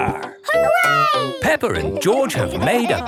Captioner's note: laughing